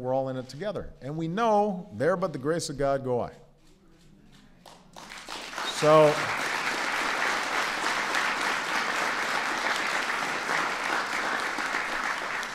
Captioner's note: applause